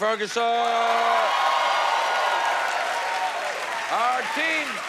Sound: cheers and applause

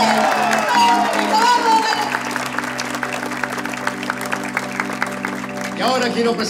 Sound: applause

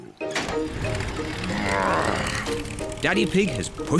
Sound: engine starts

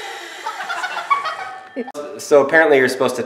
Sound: laughing

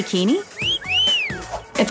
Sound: whistling

